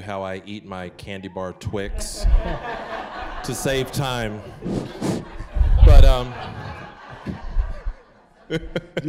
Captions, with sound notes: how I eat my candy bar Twix... (audience laughing) to save time. (audience laughing)